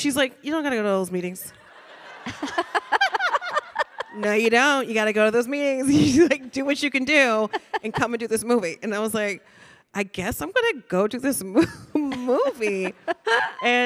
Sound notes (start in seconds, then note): 1.6 panelists laughing; 1.6 audience laughing